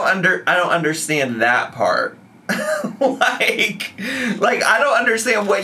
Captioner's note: laughs